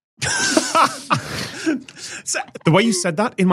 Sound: others laugh

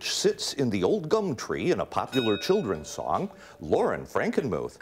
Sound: dings

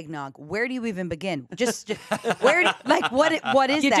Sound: laughs

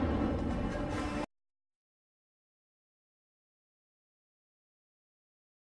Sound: epic music playing; silence

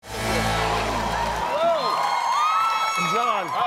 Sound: cheering

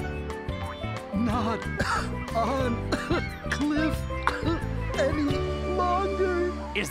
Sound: coughing

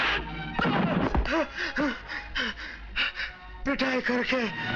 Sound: panting

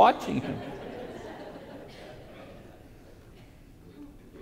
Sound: congregation laughs

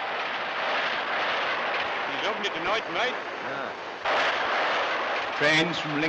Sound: train sounds drown out conversation

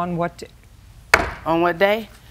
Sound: raps desk

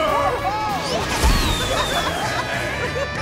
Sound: cheering

